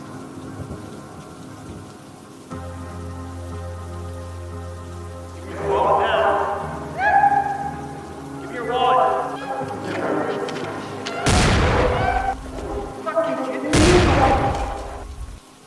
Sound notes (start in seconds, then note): 11.3 gunshot